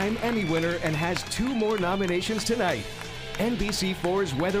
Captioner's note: applauding